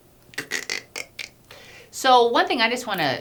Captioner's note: cutting noise